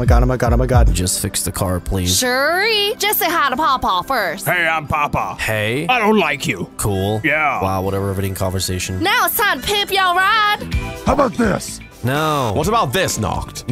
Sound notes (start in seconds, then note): 6.7 sarcastic tone